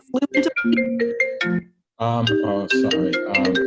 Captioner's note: phone ringing